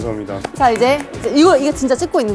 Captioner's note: big round of applause!!